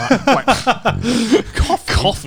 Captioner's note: scoffs